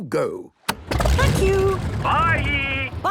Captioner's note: engine starting